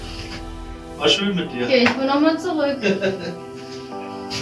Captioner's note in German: lacht